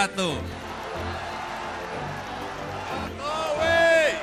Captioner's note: applause